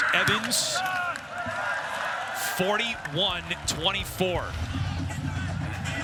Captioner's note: cheering